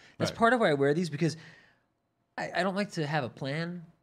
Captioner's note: none